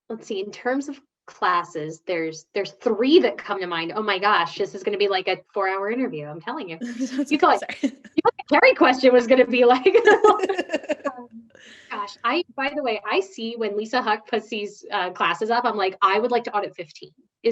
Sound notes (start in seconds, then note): 9.9 both laughing